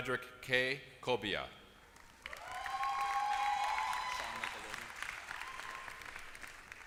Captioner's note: applause